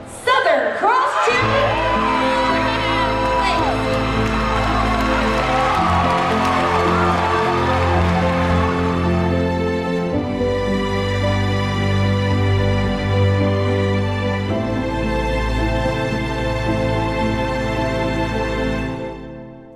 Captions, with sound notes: Southern Cross Cheer Legacy. (cheerleaders cheering) (gentle somber music) (somber music continues)